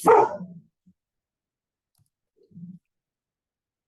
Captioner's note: dog barking